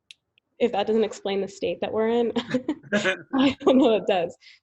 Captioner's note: laughs